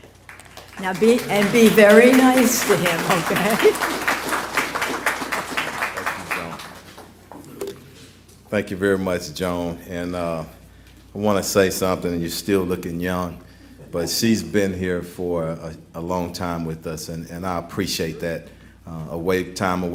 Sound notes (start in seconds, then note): 5.4 applause